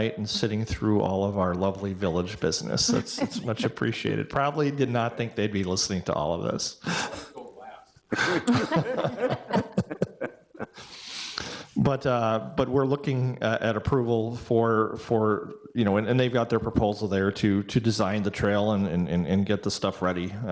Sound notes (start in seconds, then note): 7.7 speaks distantly; 8.1 people laugh